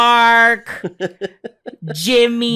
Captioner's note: chuckles